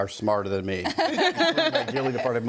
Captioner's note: group laughs